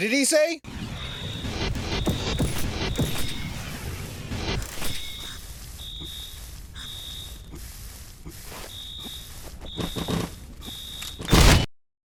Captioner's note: Sound of Del burning the office; explosion